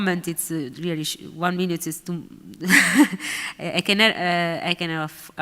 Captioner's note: laughs